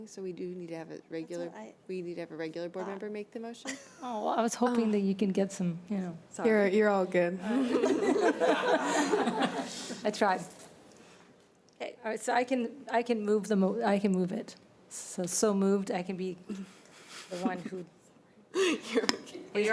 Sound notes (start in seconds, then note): 7.5 laughter; 17.0 laughter